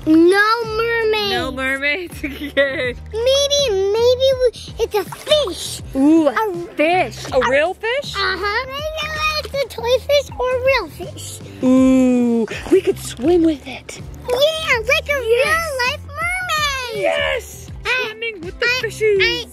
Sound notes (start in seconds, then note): 2.6 laughing